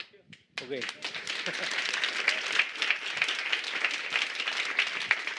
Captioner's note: applause